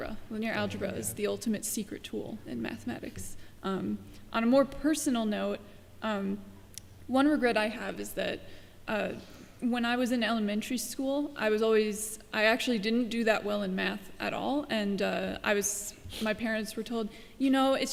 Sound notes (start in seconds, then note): none